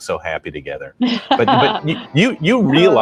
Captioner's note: laughing